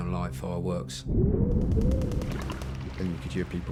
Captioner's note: distant gun fires rapidly